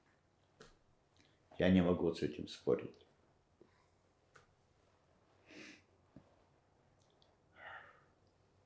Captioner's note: sighing